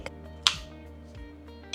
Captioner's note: click